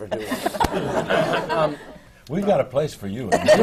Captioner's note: laughter